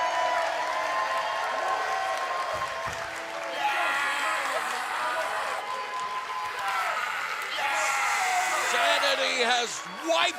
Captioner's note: cheers and applause